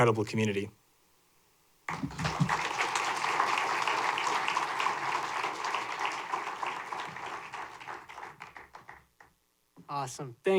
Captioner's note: applause